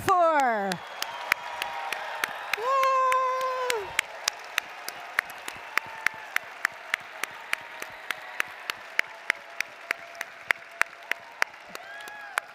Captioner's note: applause & Cheering